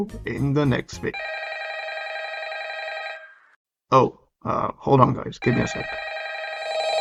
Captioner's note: FNAF ringtone interrupts